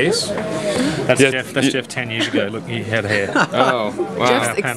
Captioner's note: laughter